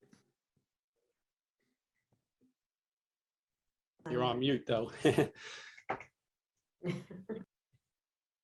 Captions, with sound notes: - You're on mute though. (chuckles)